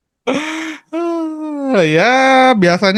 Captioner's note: takes a breath